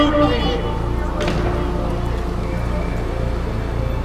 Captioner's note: bedroom door slams